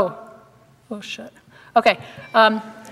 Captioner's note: quietly